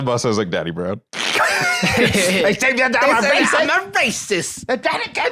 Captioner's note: both laugh